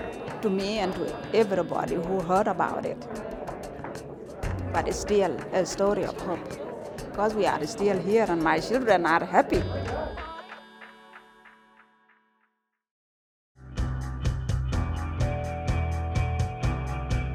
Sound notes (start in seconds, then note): 10.6 laughs